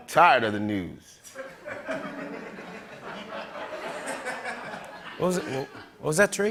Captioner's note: laughter